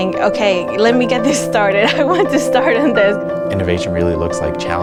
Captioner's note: laughs